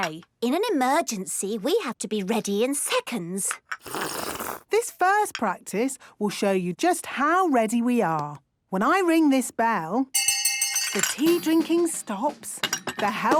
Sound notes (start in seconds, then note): 3.8 slurping; 10.1 hand bell ringing; 10.1 tea cups clinking